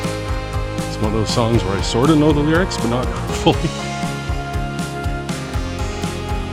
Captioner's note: chuckling